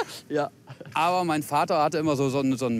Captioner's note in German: Lachen